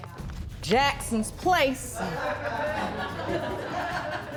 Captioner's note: audience laughs